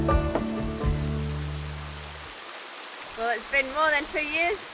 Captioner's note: water burbling